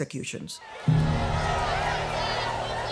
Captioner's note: crowd jeering